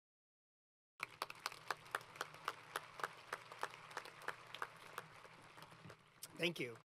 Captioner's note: applause